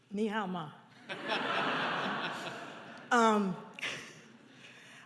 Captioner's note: audience laughs